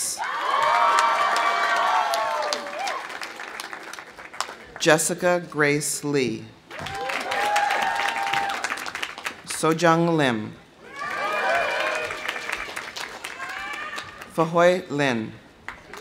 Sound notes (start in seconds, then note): 0.1 audience cheering; 0.4 audience applauding; 6.7 audience cheering; 6.7 audience applauding; 10.8 audience cheering; 10.9 audience applauding